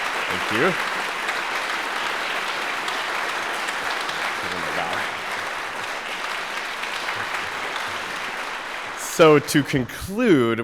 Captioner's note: applause